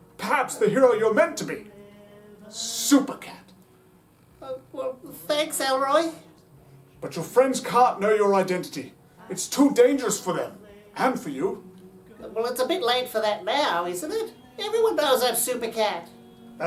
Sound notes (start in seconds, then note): none